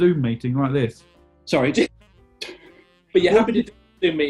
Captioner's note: laughing